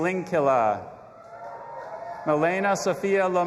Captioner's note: audience applauding and cheering